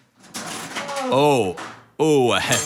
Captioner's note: rattles